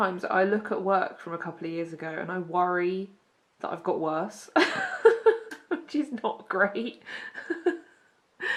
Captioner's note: laughs